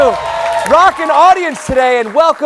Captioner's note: cheers and applause